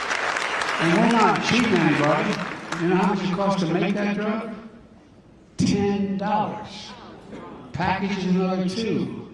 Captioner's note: applause